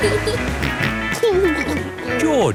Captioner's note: snorts and giggles